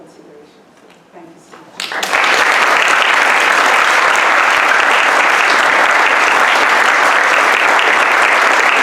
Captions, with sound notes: Thank you so much. (audience applauds)